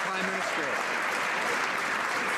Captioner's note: some Applause